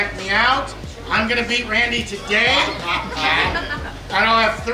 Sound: laughing

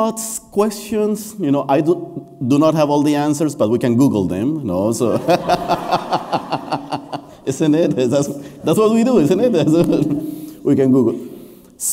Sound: laughter

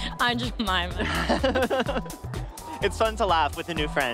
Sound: giggling

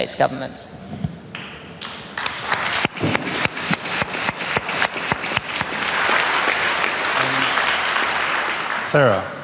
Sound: applause

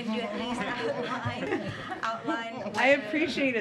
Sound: laughter

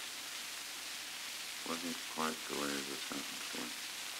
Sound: Murrow, mumbling

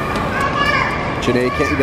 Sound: screams

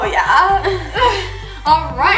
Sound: laughs

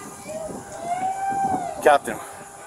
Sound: hollering; screaming

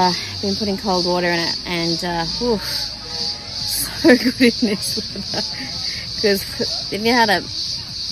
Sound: laughing

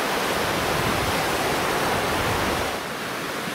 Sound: waves crashing

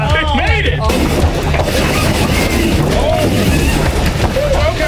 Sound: vehicle hisses and stalls

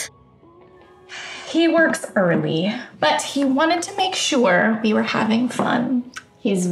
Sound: sighs

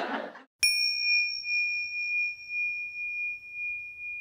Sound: audience laughing; bell dings

